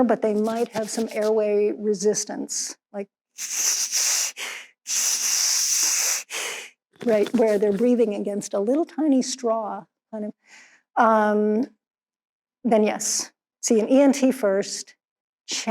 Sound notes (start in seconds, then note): 3.4 imitates wheezing